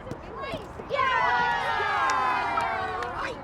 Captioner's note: cheering